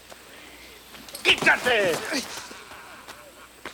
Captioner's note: Bruto yells in Spanish